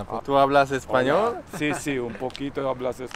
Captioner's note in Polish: po hiszpańsku